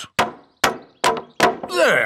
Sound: hammering

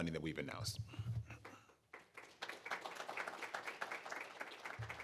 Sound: applause

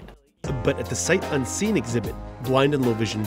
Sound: voiceover

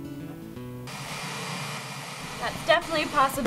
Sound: static

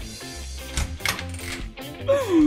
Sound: door opens; surprised Wario noises

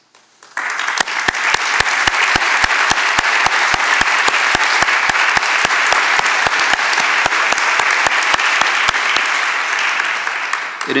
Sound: applause

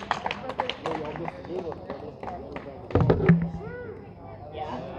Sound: audience applauding and cheering; people murmuring

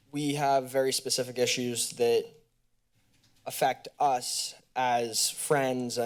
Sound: none

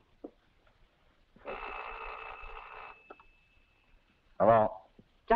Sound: telephone rings

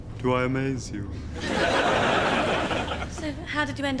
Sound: audience laughs

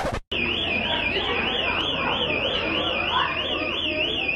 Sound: siren ringing; crowd yelling

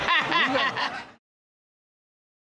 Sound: Judge Dana laughing

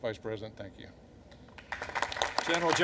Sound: applause

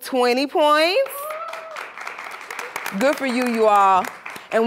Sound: cheers and applause

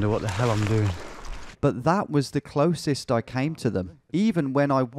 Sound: voiceover

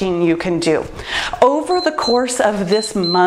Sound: timer beeps

